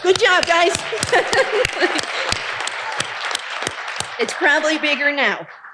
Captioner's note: audience applauding